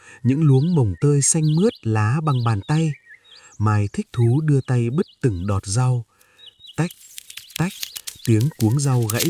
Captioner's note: click, click!